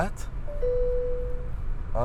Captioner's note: bip